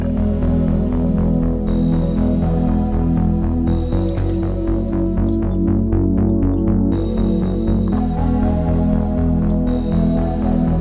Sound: calm electronic music; game sounds

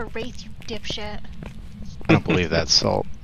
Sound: laughter

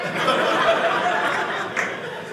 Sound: audience laughing

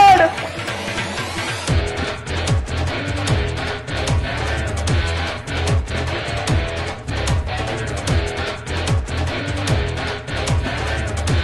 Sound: quarreling

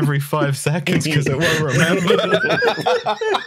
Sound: laughter

